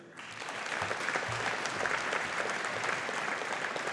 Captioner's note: audience applauding